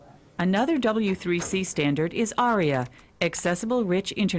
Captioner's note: voiceover